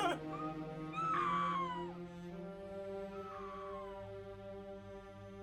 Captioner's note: Cathy screaming faintly